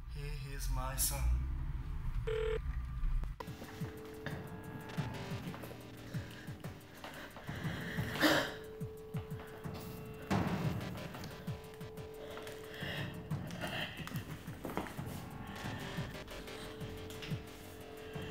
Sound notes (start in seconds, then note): 2.2 phone rings; 3.9 moody electronic music